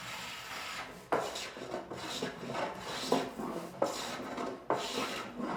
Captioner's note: block plane scratching